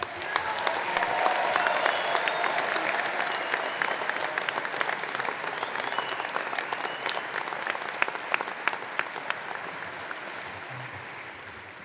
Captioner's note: applause